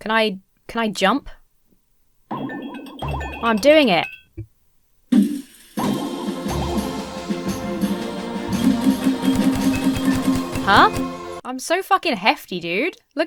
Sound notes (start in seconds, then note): 2.4 jump pad warbles; 5.7 trumpet fanfare plays; 9.3 barriers whoosh